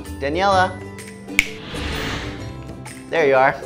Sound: finger snaps

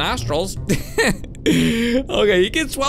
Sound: laughs

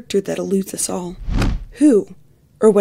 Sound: swoosh

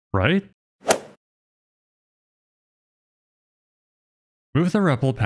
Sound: golf ball hit sound effect

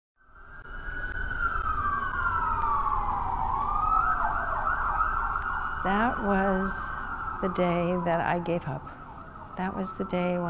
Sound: ambulance siren

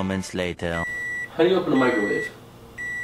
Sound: microwave beeps

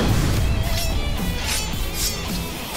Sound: knives clashing

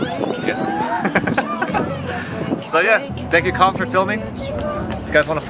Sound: laughs

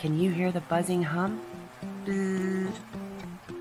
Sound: buzz

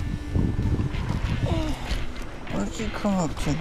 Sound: let’s out a heavy breath

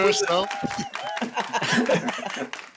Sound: laughing

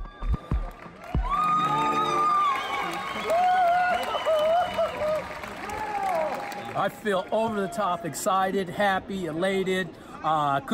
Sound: cheers and Applause

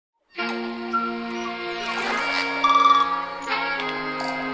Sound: air whooshing

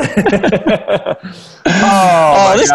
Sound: laughing

